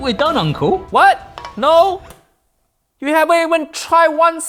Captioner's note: spoon clangs